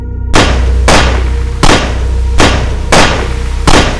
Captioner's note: gun shooting over and over